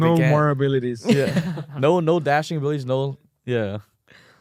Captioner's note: laughs